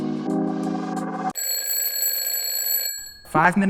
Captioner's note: bell rings